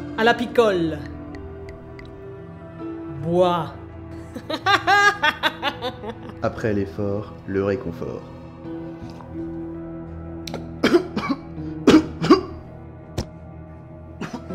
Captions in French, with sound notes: à la picole ! Bois. (rire) Après l'effort le réconfort